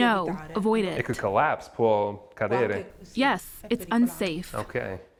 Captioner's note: through translator